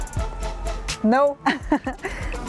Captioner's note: laughs